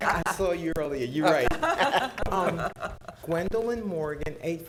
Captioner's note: laughing; laughing